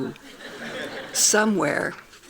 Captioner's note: laughing